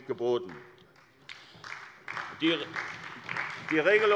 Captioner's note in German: Beifall bei der SPD